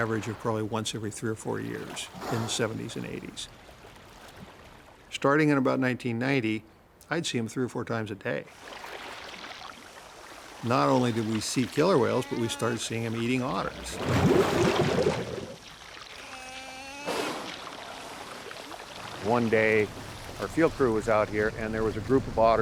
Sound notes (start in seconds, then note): 9.2 water sloshing; 14.1 bubbling; 16.1 otter crying